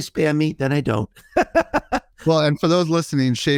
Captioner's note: laughing